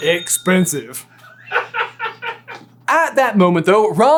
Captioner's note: laughing off screen